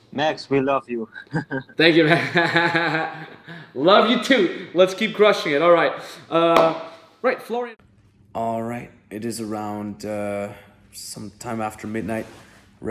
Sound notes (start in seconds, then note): 0.5 laughs; 6.3 knocks table